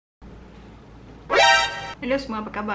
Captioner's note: shocking sound